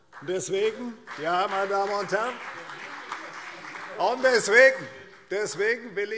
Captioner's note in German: Beifall CDU und vereinzelt BÜNDNIS 90/DIE GRÜNEN